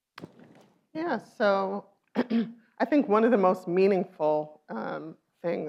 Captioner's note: clears throat